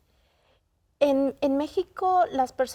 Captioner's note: in Spanish